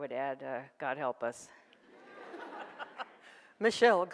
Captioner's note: audience laughs